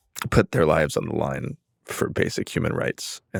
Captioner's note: none